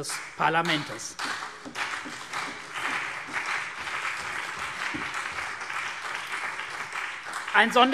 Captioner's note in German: Beifall CDU und BÜNDNIS 90/DIE GRÜNEN